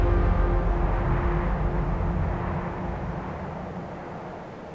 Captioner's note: wind whooshing